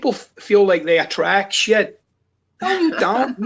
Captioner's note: laughs